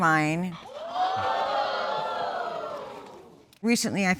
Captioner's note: audience exclaiming